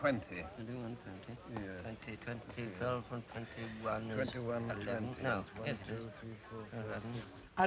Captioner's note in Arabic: ميثاق وكالديكوت يتمتمان